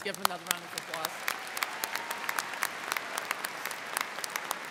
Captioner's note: crowd clapping